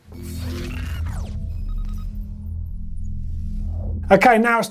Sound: digital beeping

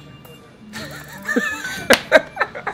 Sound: laughing

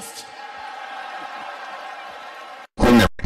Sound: wrestling fans cheering

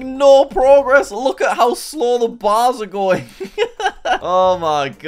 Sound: laughs

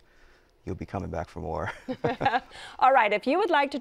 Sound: chuckles

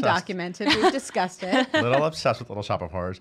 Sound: laughing

